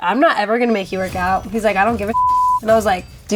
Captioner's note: beep